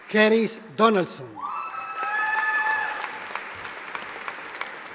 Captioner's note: audience applauding